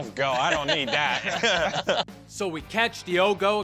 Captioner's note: laughing